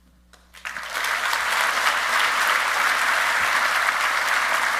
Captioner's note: audience applauding